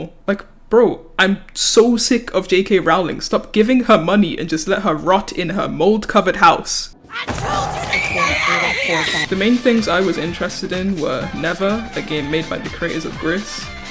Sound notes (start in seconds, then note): 7.0 screams